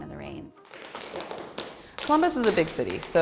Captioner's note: tap dancing